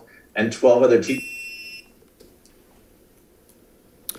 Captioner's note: beeps